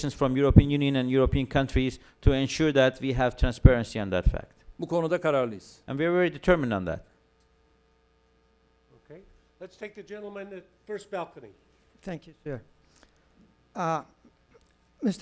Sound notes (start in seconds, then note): 5.7 non-english speech